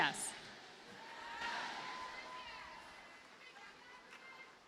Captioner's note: audience cheers